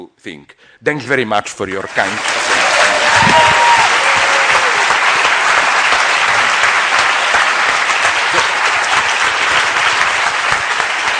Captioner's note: cut off by applause